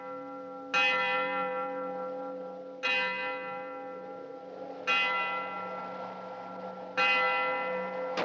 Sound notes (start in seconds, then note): 2.4 bell Continues